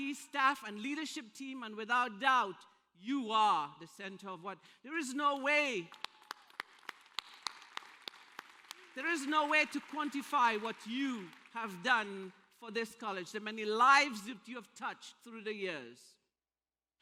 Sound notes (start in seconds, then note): 5.3 applause